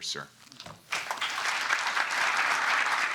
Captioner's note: applause